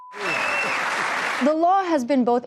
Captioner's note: cheering and applause